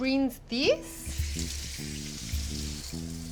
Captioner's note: splashing